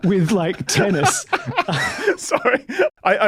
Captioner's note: laughs